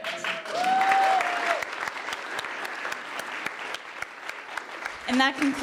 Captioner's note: audience cheering and applauding